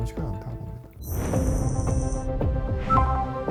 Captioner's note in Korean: 디지털 효과음